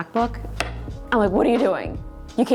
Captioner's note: rings clack